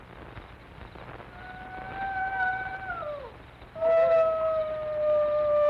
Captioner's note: wolf howling in distance